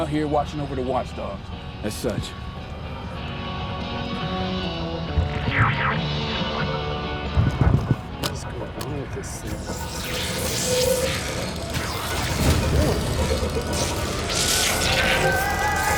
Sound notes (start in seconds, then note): 5.1 energetic music continues; 5.4 device squealing; 9.4 eerie music